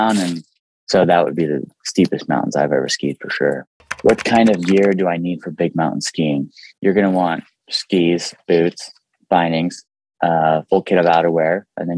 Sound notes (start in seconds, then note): 3.8 keyboard clicking